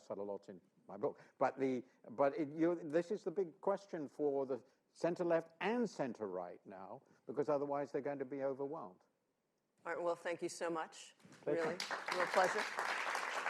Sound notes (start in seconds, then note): 11.5 applause